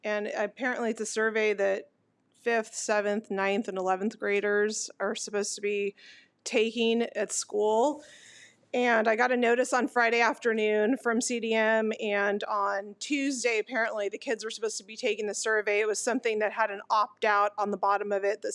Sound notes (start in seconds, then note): none